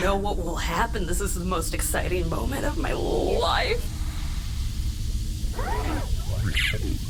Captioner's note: the water begins to boil and hiss